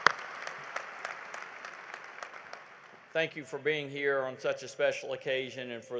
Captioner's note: applause